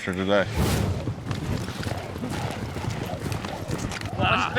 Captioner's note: hoof beats